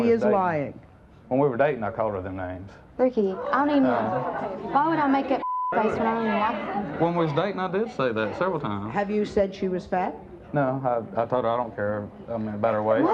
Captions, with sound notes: - She is lying? - When we were dating I called her them names. - Ricky, I don't even, why would I make up (beep) face when I don't even like ... - When we was dating I did say that, several times. - Have you said she was fat? - No, I told her I don't care I mean, about her weight.